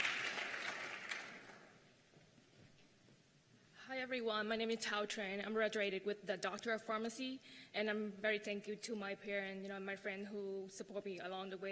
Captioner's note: cheers and applause